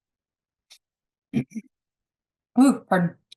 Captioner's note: clears throat